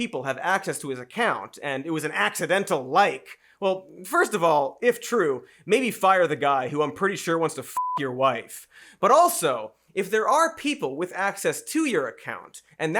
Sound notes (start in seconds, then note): 7.8 beeps